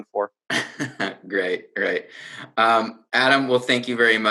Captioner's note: laughing